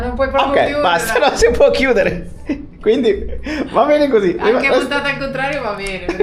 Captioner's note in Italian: risate